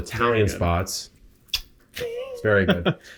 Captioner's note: kissing